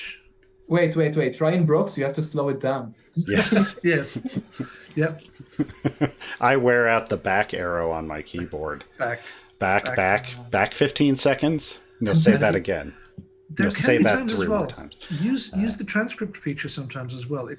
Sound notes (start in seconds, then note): 3.3 laughter